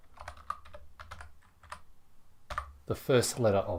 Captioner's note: keyboard clacking